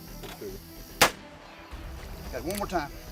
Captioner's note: gun fires